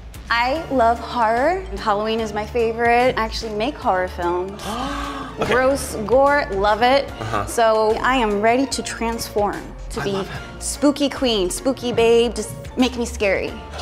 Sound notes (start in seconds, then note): 4.6 gasps